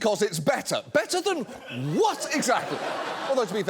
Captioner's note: audience laughs